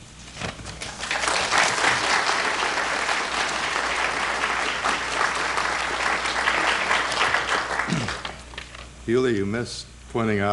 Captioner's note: applause